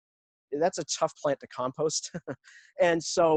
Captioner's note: chuckles